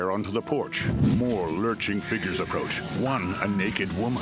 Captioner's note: flames whooshing; frightened moans